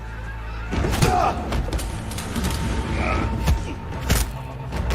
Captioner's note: fighting and grunting